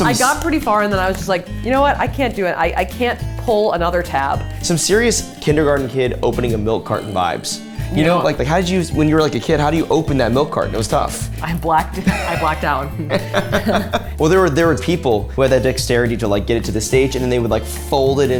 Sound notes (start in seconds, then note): 12.9 laughing